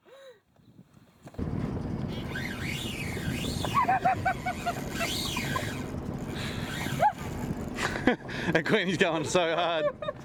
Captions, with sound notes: (wind whistling) (laughs) That queenie's going so hard.